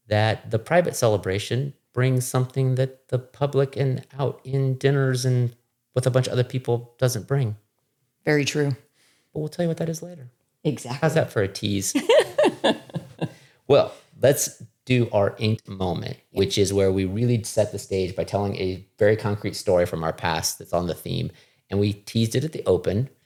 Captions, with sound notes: that the private celebration brings something that the public and out in dinners and with a bunch of other people doesn't bring. Very true. But we'll tell you what that is later. Exactly. How's that for a tease? (laughing) Well, let's do our ink moment, which is where we really set the stage by telling a very concrete story from our past that's on the theme. And we teased it at the open,